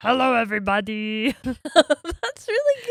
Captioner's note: laughing